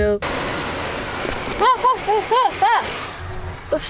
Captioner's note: laughs